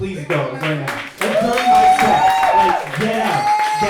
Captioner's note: audience cheering